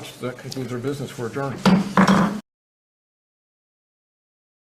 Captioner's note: gavel taps